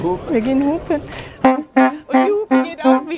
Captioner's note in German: Hupen